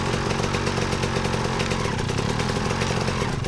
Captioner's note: bike engine roaring